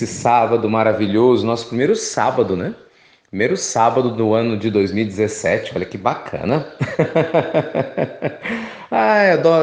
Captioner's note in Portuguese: risos